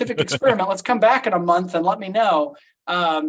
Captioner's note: laughs